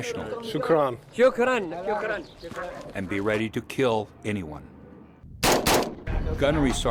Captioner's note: voiceover; voiceover